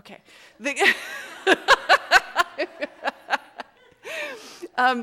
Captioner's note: audience laughs